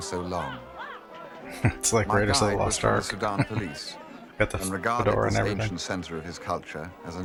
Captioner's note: chuckling